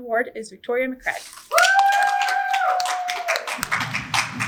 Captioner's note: audience cheers